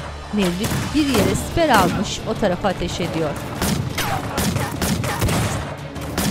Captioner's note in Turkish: Silah sesleri